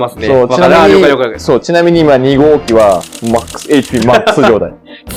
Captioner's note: laughs